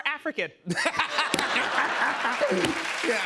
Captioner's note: audience laughs